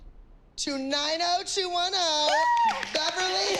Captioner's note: cheering and applause